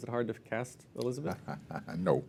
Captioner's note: laugh